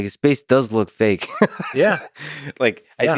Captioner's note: Lex laughs